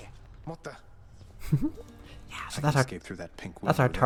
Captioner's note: giggle!